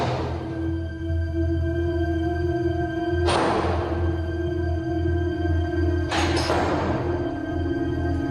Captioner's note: door slamming repeatedly